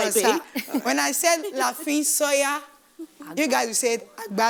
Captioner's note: speaking in foreign language